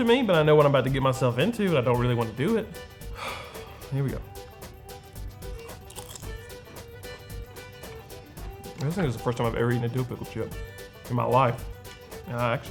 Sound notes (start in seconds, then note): 3.1 sighs; 5.5 chip crunching